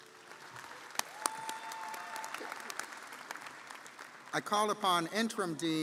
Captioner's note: audience cheering & applauding